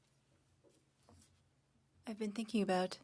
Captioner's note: speaking French